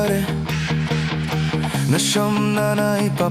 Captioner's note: goose Barking